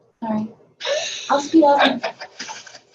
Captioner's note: laughing